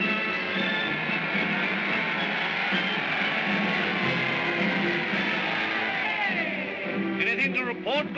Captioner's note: crowd cheers; triumphant music